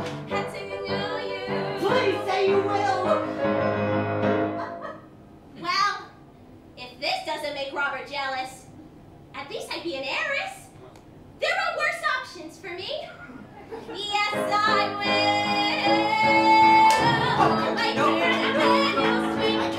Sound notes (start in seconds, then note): 13.1 laughter